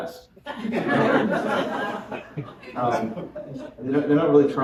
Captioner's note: laughter